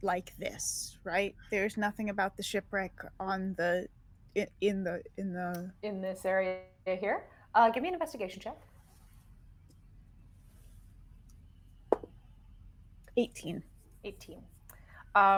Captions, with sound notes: like this, right? There's nothing about the shipwreck in the... - In this area here? Gimme an investigation check. (dice thudding) - 18. - 18.